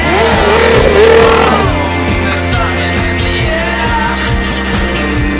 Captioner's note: engine revving; upbeat music